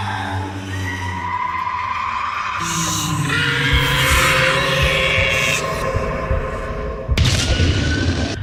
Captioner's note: ghost screams